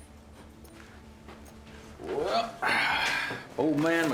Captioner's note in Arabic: تنهدات